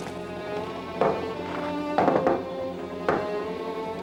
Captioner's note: knocking